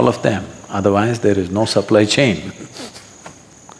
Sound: laughs

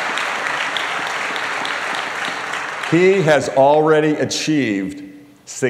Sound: applause

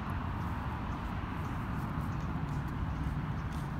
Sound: walking

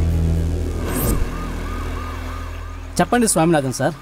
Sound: police siren wails

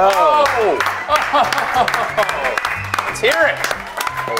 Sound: group clapping

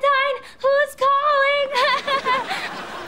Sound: laughing

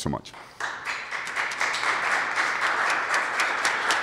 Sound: applause

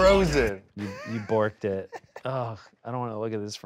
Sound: laughs

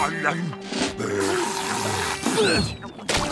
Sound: slurping

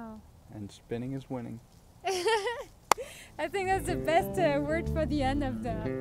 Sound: laughs

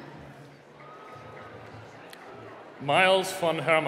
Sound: applause

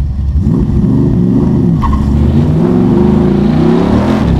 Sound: car engine roaring

